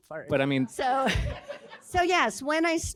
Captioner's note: laughter